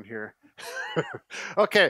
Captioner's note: chuckles